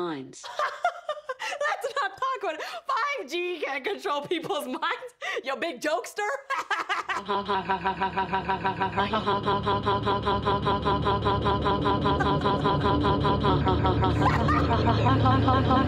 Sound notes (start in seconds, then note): 0.5 laughs; 6.4 laughs; 7.1 Alexa laughing robotically; 9.6 ominous music; 13.9 laughs